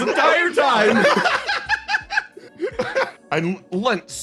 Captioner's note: laugh